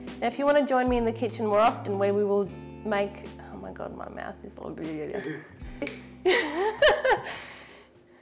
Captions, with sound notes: If you want to join me in the kitchen more often, where we will make... Oh my God, my mouth is (speaks gibberish) (laughs softly)